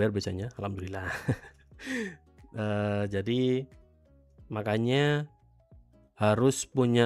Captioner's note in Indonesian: tertawa